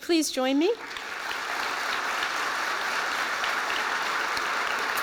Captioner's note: applause